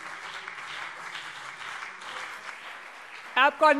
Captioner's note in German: Beifall CDU und BÜNDNIS 90/DIE GRÜNEN - Widerspruch SPD